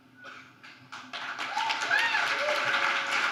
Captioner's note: applause